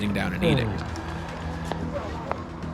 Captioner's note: groans